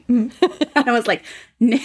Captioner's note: laughing